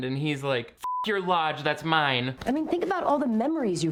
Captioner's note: beep